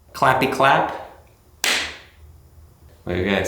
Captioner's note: loud clapping